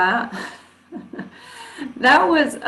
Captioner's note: chuckles